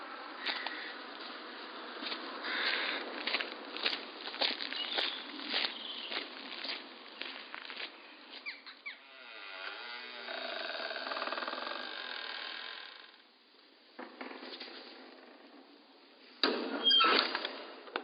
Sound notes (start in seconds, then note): 8.8 door creaking